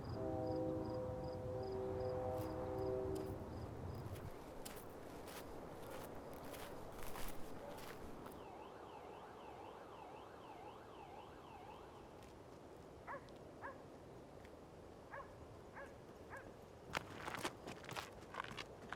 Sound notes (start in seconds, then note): 0.0 distant train horn blares; 8.8 distant siren; 13.1 dogs barking